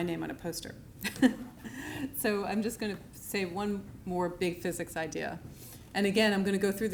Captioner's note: laughs